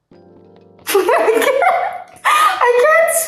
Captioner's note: Anna laughing